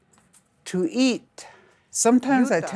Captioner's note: speaking Lakota